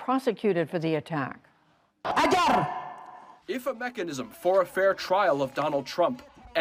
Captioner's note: through translator